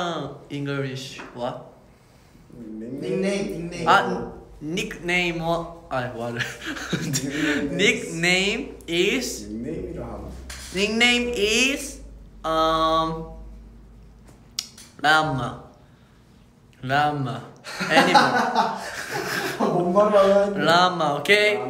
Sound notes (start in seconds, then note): 5.1 spoke in Japanese